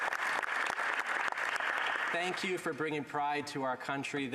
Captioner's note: applause